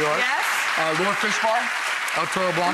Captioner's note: audience applauds